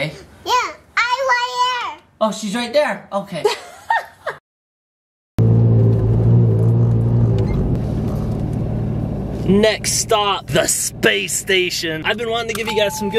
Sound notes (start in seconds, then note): 3.4 laughing; 5.4 car engine revving